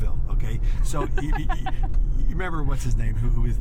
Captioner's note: laughs